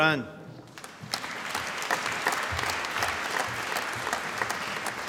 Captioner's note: applause